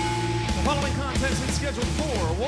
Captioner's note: bell ringing